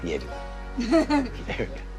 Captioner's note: laughs